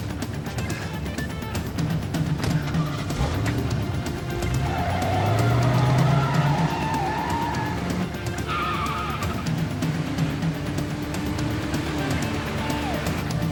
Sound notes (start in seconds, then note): 2.4 car door slamming; 3.2 engine revving; 5.0 tires screeching; 10.3 suspenseful music